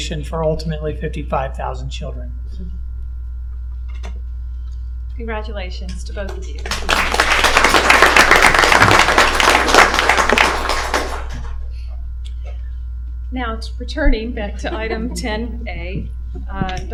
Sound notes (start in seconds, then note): 10.1 applause